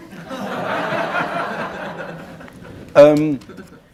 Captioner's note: audience laughing